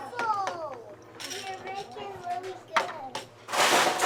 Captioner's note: chatter